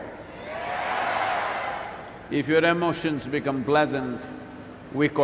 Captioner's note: cheering/Applause